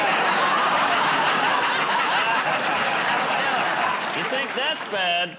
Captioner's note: laughter